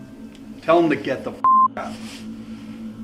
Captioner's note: beep